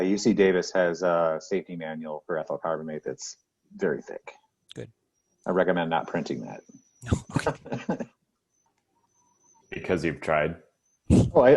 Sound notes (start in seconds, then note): 7.0 laughs